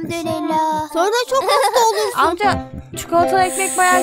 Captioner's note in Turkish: gülerek